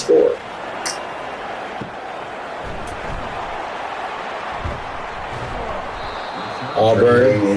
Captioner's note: crowd Noises